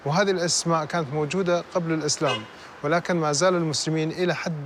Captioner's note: speaking foreign language